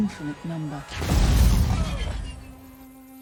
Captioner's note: explosion